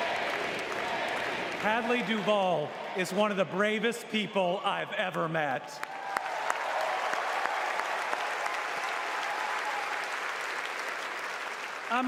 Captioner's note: crowd chanting "andy"